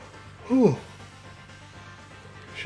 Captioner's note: yawn